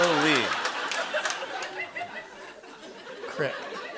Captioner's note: laughter